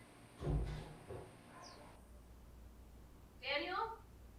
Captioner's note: door thudding